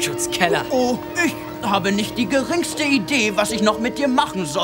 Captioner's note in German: nachäffend